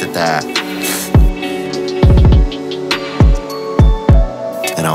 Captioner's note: Theo chuckles